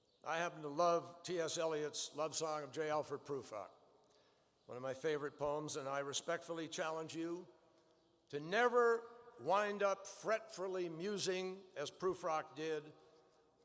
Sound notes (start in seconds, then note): none